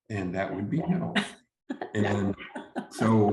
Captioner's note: chuckles